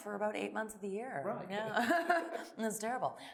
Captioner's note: laughing